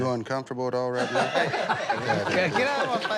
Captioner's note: laughter